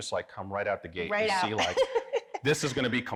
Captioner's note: laughs